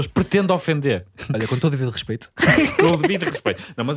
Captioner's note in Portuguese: risos